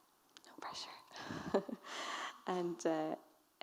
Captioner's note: chuckles